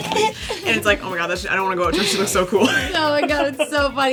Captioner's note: laughs